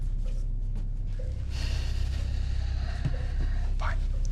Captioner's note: Holden sighing